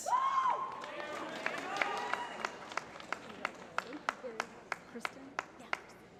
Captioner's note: applause